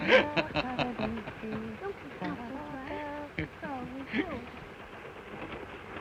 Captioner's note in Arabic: الرجل يضحك; تتمتم الآنسة فروي; صوت خشخشة القطار